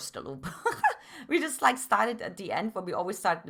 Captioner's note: laughs